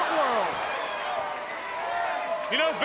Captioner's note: crowd cheering